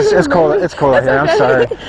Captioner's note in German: Beide lachen